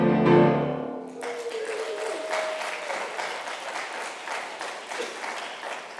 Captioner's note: congregation applauds and cheers